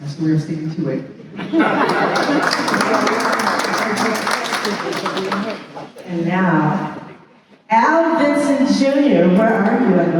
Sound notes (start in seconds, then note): 1.3 laughter; 1.8 applause